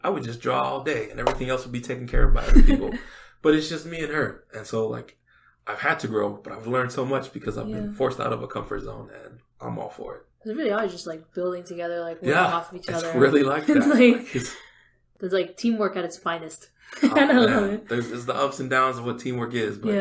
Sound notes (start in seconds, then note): 16.9 laughs